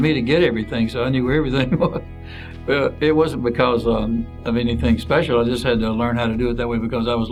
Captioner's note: chuckles